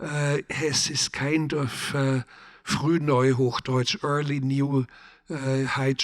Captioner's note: speaking in German